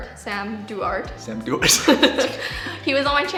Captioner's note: both laughing